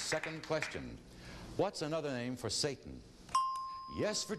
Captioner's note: ding